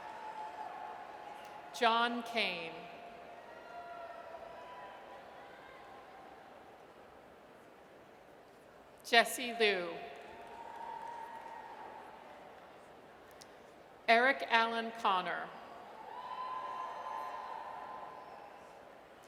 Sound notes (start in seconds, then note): 10.4 audience cheers; 16.0 audience cheers